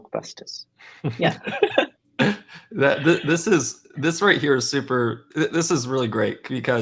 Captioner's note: laughs